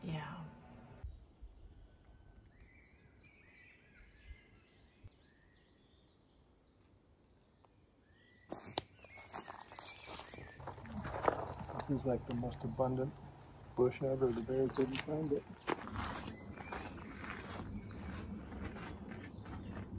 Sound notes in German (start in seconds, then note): 2.5 Naturgeräusche, singende Vögel; 16.5 Naturgeräusche, singende Vögel